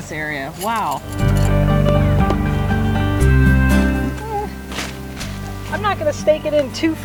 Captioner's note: high-pitched groan